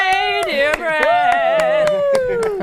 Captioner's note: applause